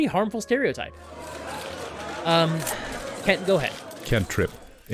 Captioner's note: crowd of reporters shouting